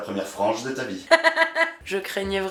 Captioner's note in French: rires